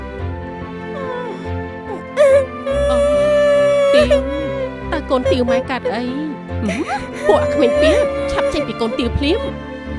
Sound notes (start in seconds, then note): 0.9 teenage crying